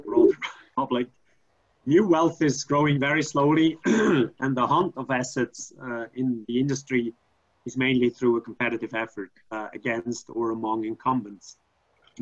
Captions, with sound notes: (laughs) Hope like, new wealth is growing very slowly. (clearing throat) And the haunt of assets, in the industry is mainly through a competitive effort against, or among incumbents,